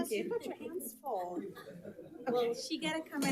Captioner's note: people chatter